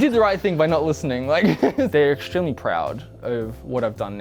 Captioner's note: laughs